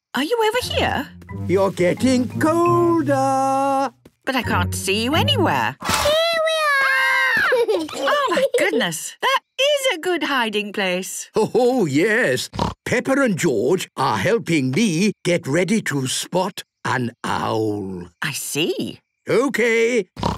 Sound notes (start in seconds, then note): 7.4 laughter; 12.5 snorting